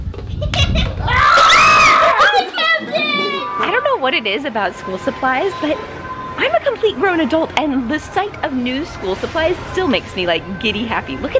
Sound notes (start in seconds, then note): 1.0 all exclaiming; 1.8 laughing